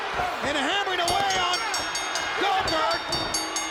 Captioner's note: bell rings